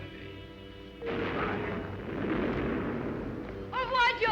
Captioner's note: canon rumbling